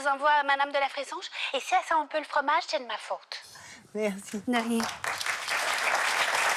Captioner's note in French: applaudissements